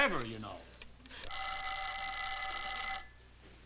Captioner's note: phone ringing